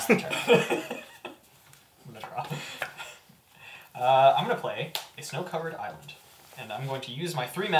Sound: laughs

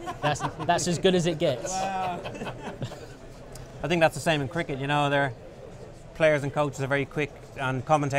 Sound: laughter

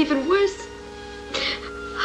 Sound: sobs

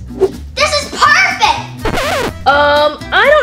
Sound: record scratching

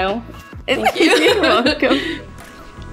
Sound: giggling

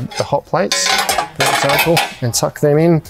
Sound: metal clanging

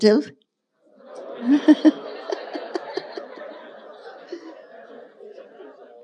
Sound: laughing

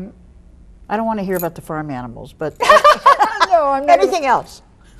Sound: Lily laughs

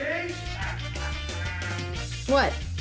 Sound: laughing

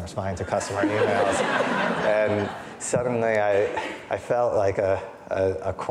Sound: audience laughing

